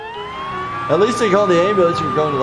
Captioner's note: siren wailing